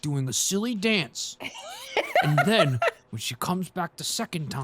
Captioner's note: laughs